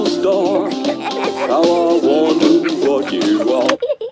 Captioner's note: both giggling